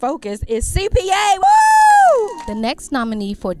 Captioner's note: cheering